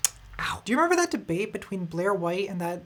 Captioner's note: sips